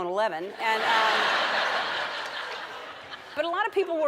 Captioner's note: audience laughs